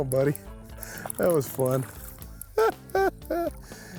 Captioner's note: laughing